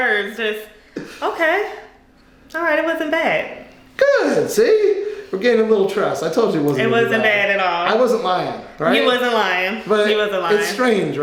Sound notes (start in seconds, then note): none